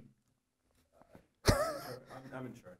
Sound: laughing

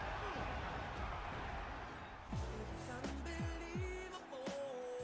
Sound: crashing and cheering; mellow music

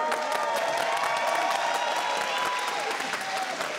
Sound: applause

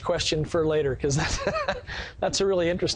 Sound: laughs

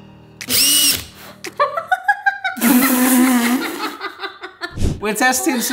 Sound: drill whines; blender whirs; both laughing

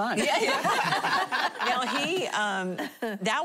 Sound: laughter

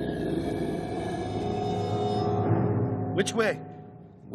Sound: growling

